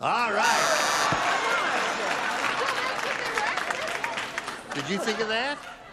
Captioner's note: buzzing